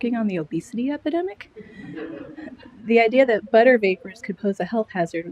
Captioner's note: laughter